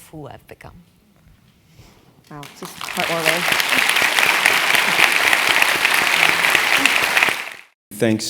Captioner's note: applause